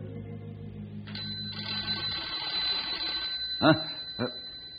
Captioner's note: phone rings